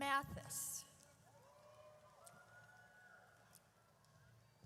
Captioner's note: audience cheers